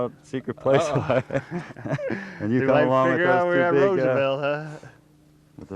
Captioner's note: laughter